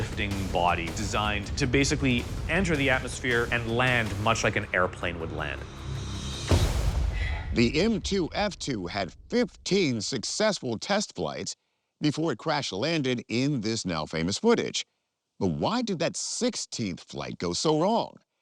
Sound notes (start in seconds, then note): 5.4 intense ambient music; 5.6 graphic whooshes